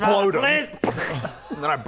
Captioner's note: pop!